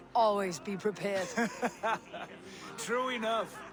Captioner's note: laughs